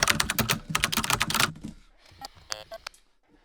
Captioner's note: keyboard clicking